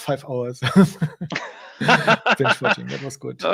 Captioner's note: both laugh